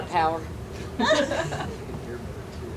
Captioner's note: laughing